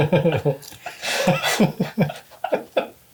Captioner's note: all laugh